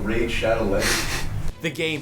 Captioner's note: laughs